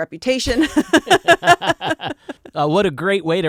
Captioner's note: laughing